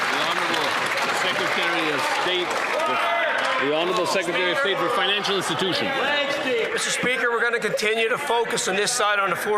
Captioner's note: applause